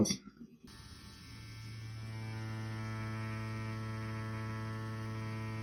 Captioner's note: machine buzzing quietly